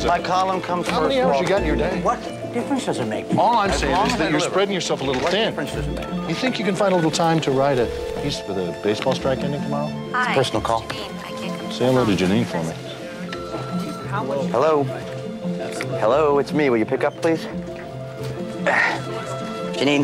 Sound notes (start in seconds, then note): 15.8 machine Beeps